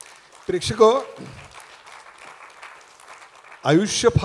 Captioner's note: applause